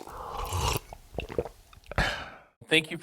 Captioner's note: liquid pouring; sipping drink; gulping drink